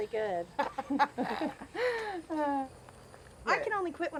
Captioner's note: laughing